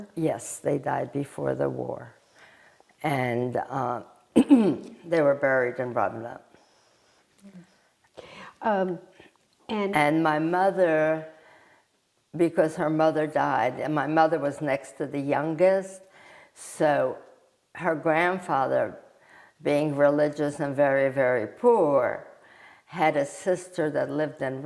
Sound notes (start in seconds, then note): 4.4 clears throat